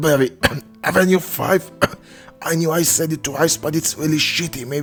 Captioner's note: cough